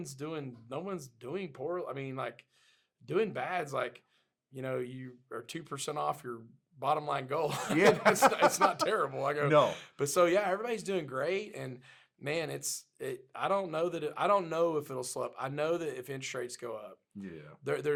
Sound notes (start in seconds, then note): 7.5 both laughing